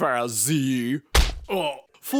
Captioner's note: punch